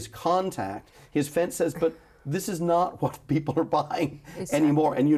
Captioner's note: chuckles